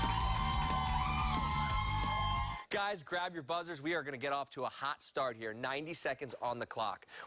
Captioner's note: cheers and applause